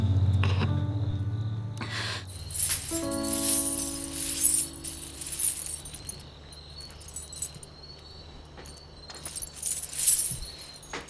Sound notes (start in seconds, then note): 2.6 sound of anklets